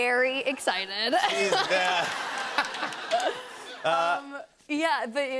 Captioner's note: laughter